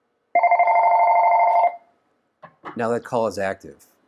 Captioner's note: phone ringing